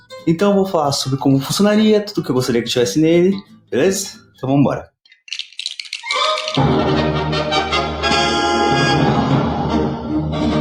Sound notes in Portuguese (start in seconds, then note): 5.0 Sons de blocos